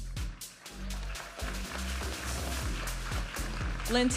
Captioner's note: audience applauding and cheering; vibrant music